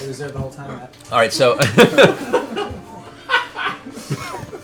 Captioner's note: laughter